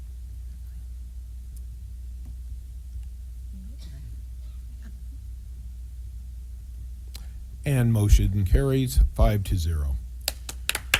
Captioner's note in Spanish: Aplausos